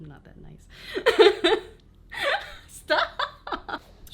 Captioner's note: laughs